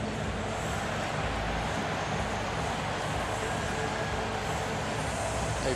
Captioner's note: cheering